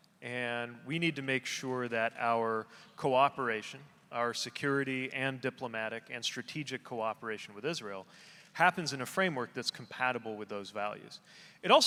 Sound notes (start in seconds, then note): none